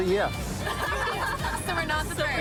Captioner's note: laughter